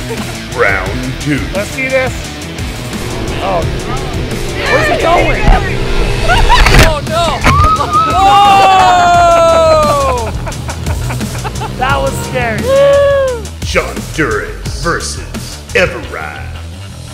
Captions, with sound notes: - [Voiceover] Round 2. - [Voiceover] Let's see this. - [Voiceover] Where's he going? - [Voiceover] Oh, no! (laughing) - [Voiceover] That was scary. - [Voiceover] Shonduras versus Everide.